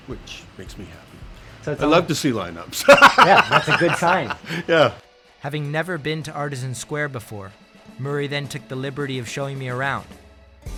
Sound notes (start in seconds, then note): 2.8 laughs